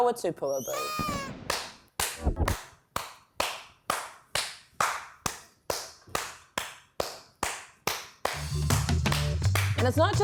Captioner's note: claps for an uncomfortably long time